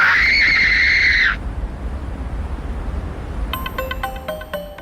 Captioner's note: shrieking; sound of Waterfall